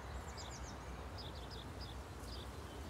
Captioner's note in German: Vogelzwitschern